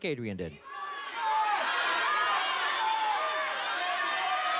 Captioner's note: cheers